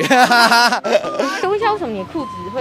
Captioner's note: inhale